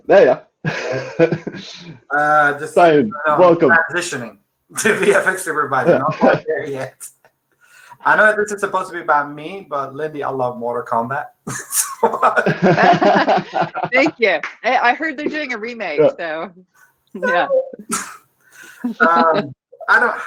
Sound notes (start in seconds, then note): 0.6 laughing; 7.4 laughing; 11.4 everyone laughing; 16.6 squeaking; 18.6 laughing